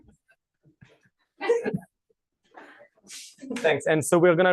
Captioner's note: laughter